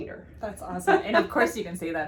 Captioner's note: laughs